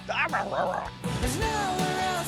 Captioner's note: grumbles